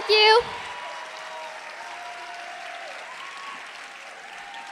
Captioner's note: applause, cheering